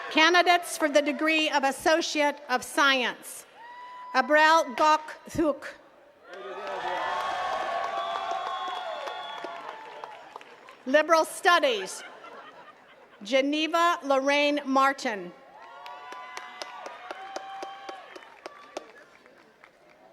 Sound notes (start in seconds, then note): 6.2 attendees cheering and clapping; 11.8 attendee laughing; 15.4 attendees cheering and clapping